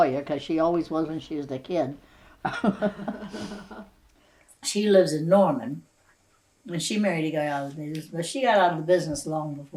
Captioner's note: laughter